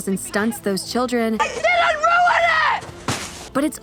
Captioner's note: shouts